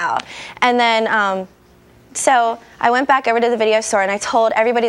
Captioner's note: none